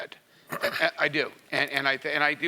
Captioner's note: cough